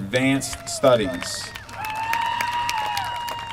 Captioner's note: applause